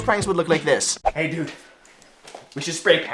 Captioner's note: excitedly